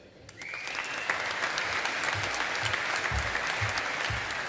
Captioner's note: audience applauding